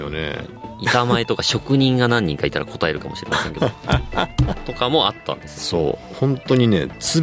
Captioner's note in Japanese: 笑い